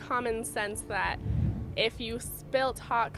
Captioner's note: air whooshing